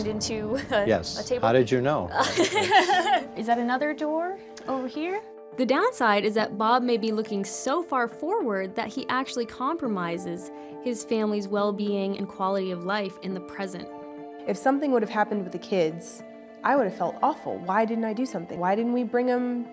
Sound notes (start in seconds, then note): 2.2 laughs